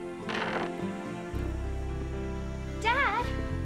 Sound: floorboard creaks

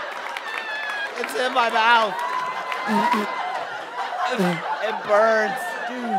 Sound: sputtering

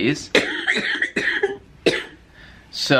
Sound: coughing

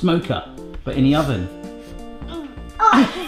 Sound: sniffs

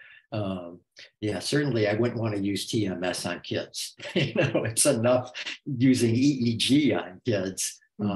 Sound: laughs

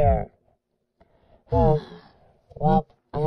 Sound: sigh

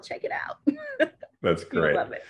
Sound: laughs

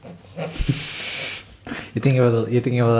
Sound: sniggering

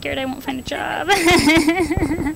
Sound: laughter

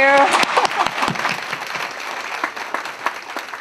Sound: audience claps

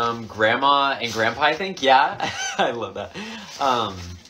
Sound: laughing

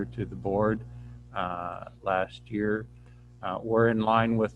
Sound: none

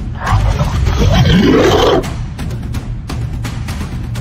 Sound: roaring; epic War Drums

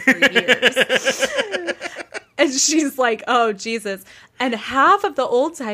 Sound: laughing

